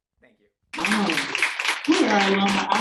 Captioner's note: audience applauding